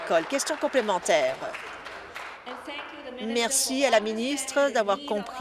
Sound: applause

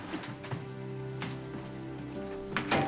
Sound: door shuts

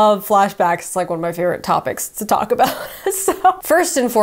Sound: laughs

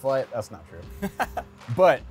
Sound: laughs

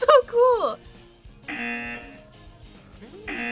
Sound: buzzer

